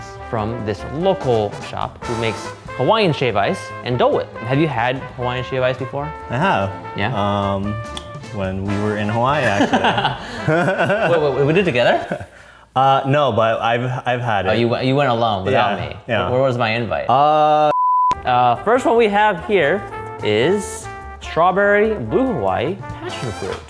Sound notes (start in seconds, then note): 9.3 laughing